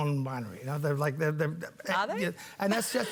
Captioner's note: chuckles